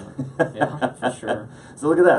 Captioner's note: laughs